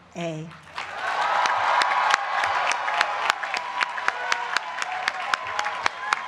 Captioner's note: applause